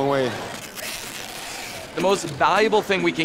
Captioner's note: tape screeching